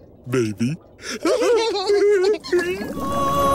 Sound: laughing

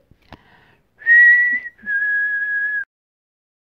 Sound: whistling

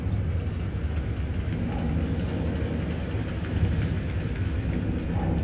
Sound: ship engine roaring

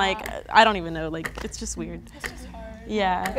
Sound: clock begins ticking

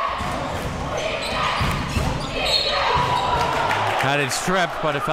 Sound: crowd

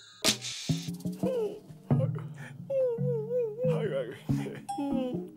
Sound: weeping

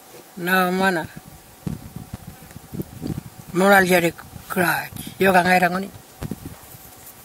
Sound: continues to speak in Aboriginal language

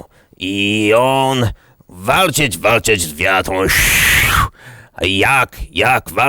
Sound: whoosh

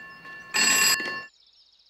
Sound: phone rings

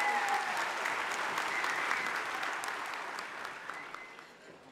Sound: audience applauding

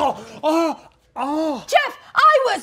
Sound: patient chokes

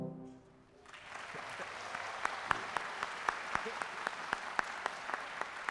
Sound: audience applauding

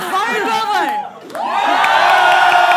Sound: crowd cheers even more loudly

